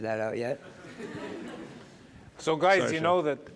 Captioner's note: laughter